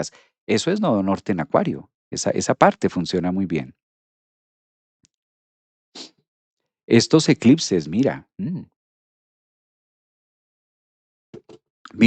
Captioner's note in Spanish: resoplido